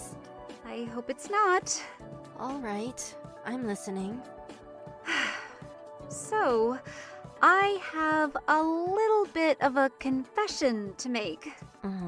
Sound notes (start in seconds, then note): 5.0 deep exhale